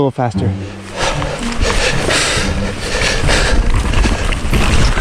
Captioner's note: heavy breathing